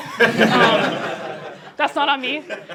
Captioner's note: laughter